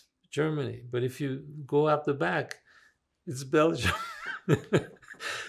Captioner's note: laughing